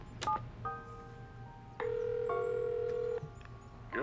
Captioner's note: ringing